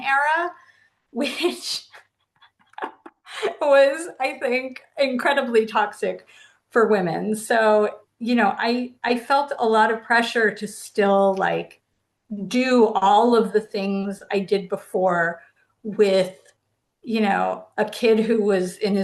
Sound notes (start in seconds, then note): 2.4 laughing